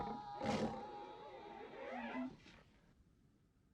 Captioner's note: screaming; growling; glass squeaking